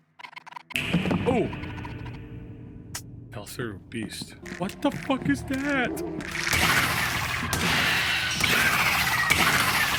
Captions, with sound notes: Ooh! It fell through, beast. What the fuck is that?! (creatures squealing) (gun fires)